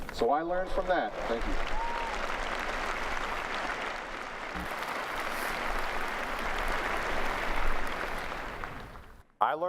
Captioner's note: applause